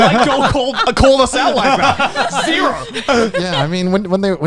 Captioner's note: laughing